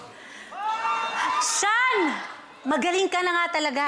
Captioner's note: audience cheering